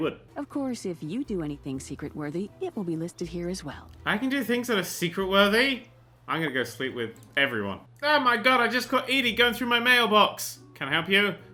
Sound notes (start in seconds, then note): none